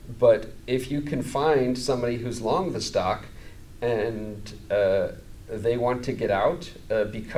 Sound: none

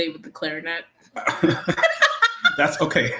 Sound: laughs

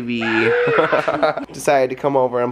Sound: laughs

